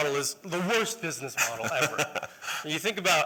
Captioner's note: laughter